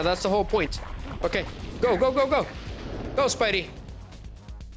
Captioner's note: none